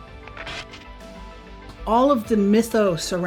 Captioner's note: radio static hissing